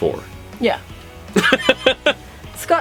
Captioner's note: laughter